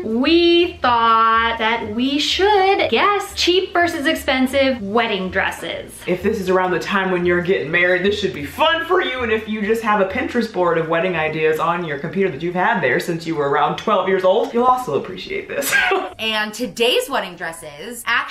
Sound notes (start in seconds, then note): 15.6 laughs